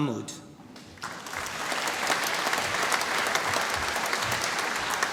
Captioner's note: applause